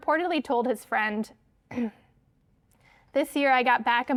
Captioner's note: clears throat